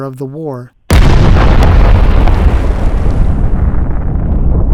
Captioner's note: massive explosion